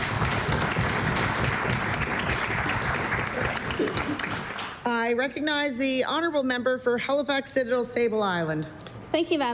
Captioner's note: applause